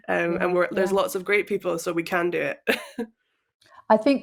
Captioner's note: chuckles